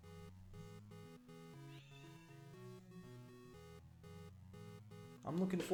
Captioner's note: xuca meow in background